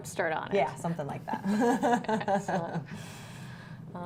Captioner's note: laughter